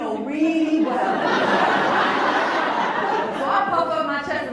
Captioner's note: laughs